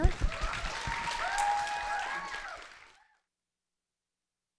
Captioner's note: applause, cheering